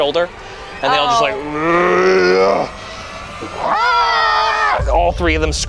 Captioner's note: groans and screeches